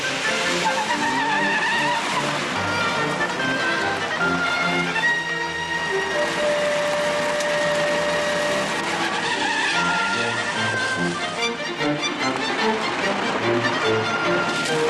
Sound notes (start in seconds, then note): 0.1 tires screech; 8.9 tires screech